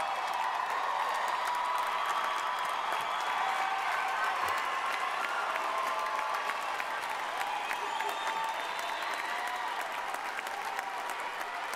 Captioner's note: cheering and applause